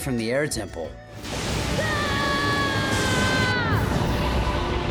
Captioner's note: thundering, screaming